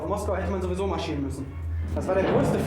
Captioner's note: speaking german